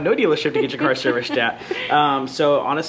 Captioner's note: laughs